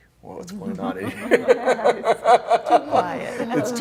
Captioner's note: laughter